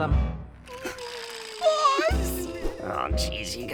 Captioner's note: Car Crash wimpering